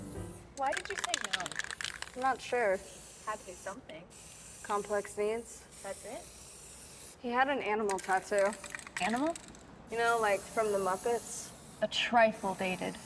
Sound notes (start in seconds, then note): 2.9 spray paint hisses